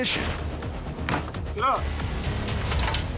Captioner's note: bang